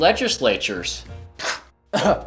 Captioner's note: scoffs